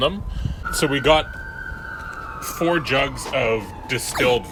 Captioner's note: sirens blaring